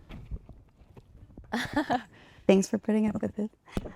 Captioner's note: participant laughs